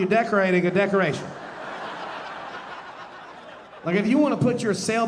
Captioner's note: audience laughing